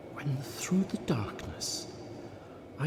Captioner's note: none